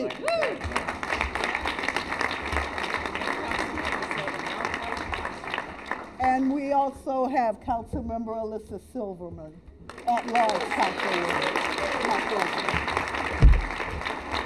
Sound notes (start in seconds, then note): 4.8 applause